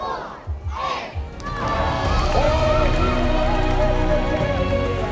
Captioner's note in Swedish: Applåder